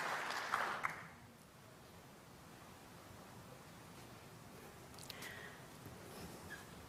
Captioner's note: applause